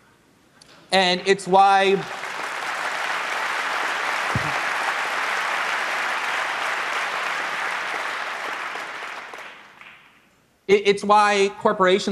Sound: applause

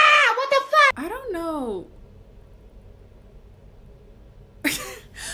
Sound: laughs

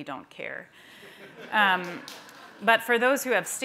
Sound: laughter

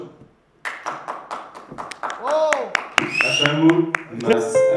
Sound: applause

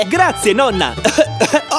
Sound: cough

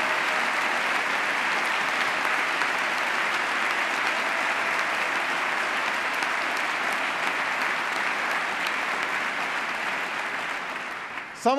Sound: applause

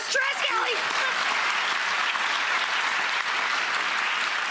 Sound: audience clapping

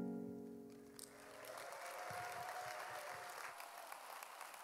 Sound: audience applauding

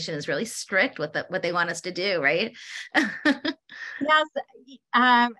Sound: laughs

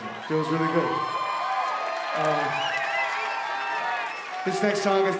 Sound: audience cheering

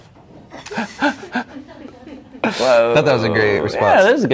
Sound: laughing

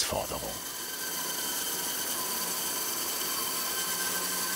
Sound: screeching of the saw

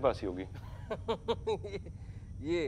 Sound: laughs

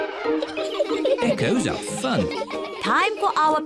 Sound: all giggling

